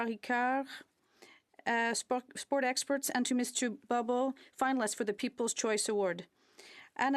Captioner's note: speaking French